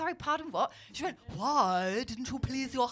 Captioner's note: posh Voice